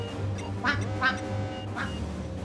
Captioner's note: controls beeping